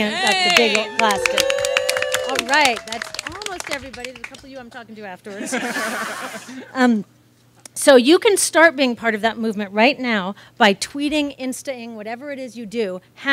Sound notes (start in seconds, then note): 0.0 audience claps and cheers; 5.3 audience laughs